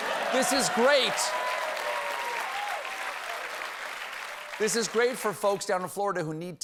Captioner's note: applause